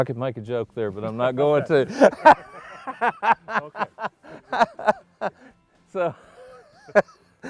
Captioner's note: laughing